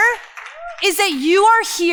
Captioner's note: crowd applause